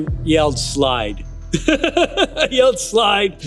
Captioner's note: laughter